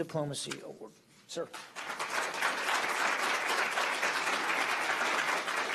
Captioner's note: applause